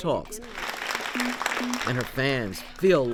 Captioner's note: audience clapping